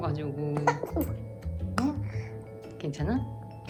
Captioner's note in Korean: 사레 들림